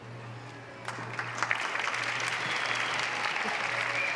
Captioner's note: applause